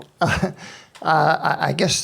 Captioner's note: chuckles